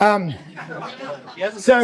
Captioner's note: audience laughs